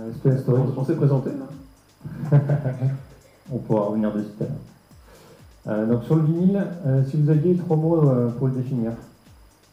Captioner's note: laughing